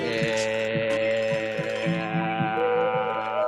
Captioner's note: all murmuring